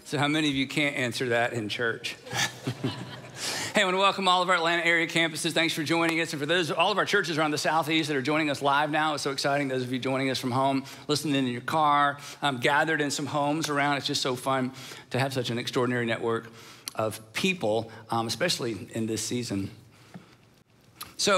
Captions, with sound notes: - So how many of you can't answer that in church? (audience chuckling) Hey, want to welcome all of our Atlanta area campuses. Thanks for joining us. And for those, all of our churches, are on the SouthEast joining us live now. It's so exciting. Those of you joining us from home. Listening in your car, gathered in some homes around, it's just so fun to have such an extraordinary network of people; especially in this season.